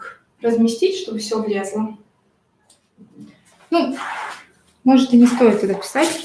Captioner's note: шуршание внизу